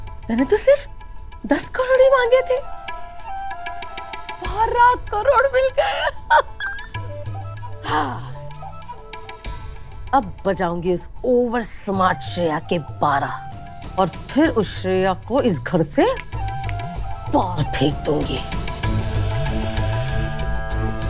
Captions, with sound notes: I asked for ten crore rupees. But I got twelve crore rupees. [sighs] Now I'm going to teach this over smart Shreya a lesson. And then I'm going to kick Shreya... ...out of this house. [dramatic music playing]